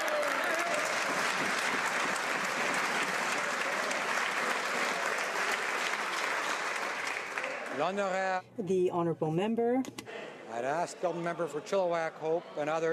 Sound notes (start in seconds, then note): 2.8 some Applause